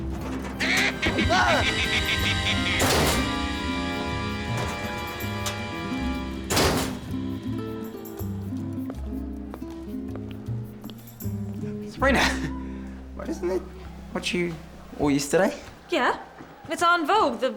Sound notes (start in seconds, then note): 0.6 evil cackling; 2.7 locker door slams